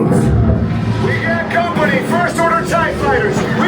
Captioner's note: shields rumbling